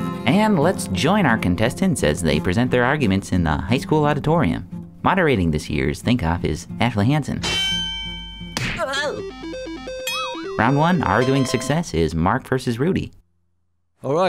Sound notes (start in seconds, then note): 7.7 bell; 8.8 thud